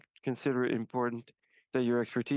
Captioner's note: speaking French